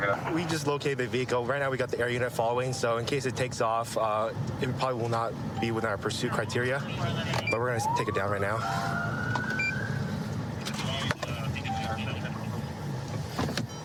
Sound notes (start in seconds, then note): 7.4 police siren